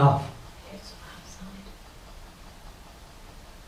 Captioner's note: whispers